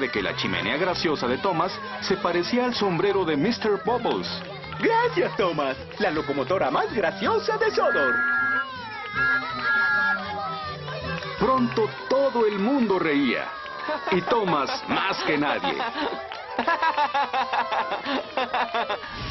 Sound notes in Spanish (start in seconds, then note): 8.0 silbando